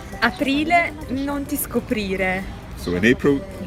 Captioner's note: speaks in foreign language